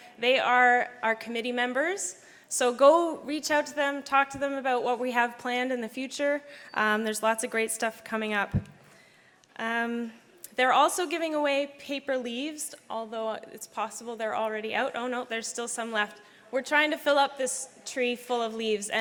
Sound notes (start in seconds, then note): none